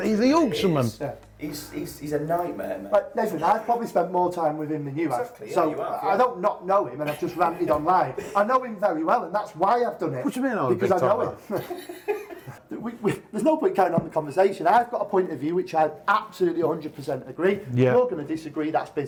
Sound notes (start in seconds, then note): 10.6 laughing